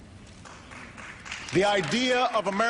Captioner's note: applause